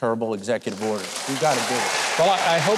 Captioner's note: applause